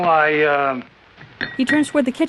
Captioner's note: clanking